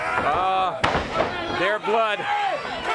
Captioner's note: crowd chatter